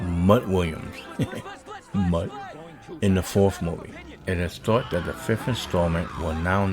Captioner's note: chuckles